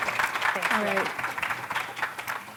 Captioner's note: applause